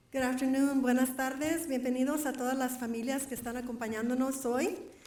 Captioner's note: foreign Language